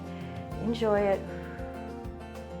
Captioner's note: exhales